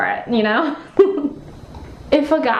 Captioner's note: chuckling